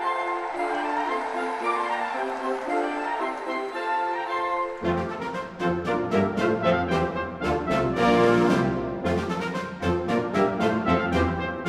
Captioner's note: cheers and applause